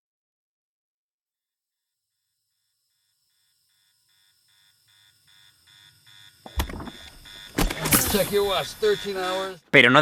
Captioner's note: Sound comes back as Clooney fills the cabin with air